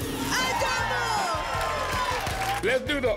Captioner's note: applause and cheering